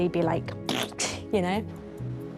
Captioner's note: makes raspberry